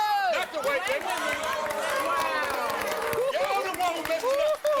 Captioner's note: crowd groans